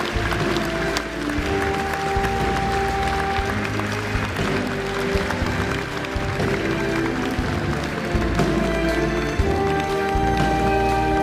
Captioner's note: applause